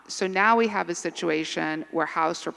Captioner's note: none